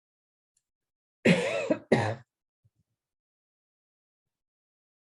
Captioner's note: coughs